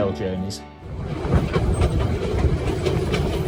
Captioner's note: railway noises